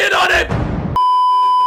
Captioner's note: dramatic thud